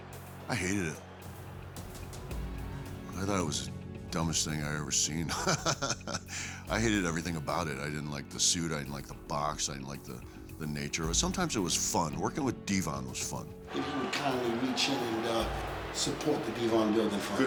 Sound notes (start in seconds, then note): 5.2 laugh